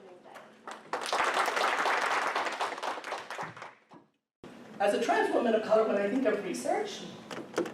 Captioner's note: applause